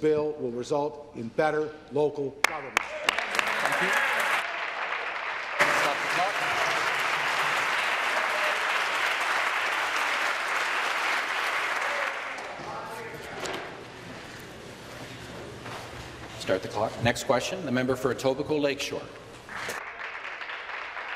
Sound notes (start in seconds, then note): 5.9 applause